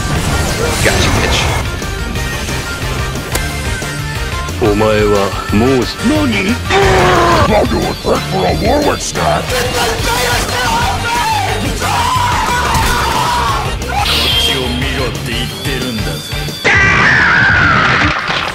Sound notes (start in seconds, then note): 3.2 hitmark sound effect